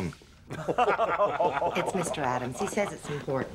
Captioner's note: laughing